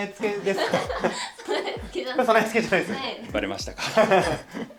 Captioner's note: laughs